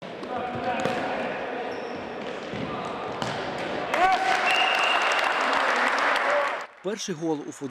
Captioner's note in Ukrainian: Свистить свисток, кричать вболівальники, оплески